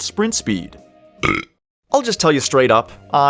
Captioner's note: burp